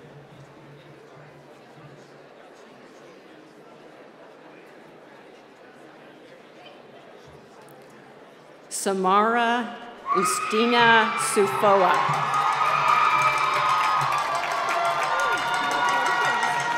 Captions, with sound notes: Samara Christina Sufoah. (cheering and applause)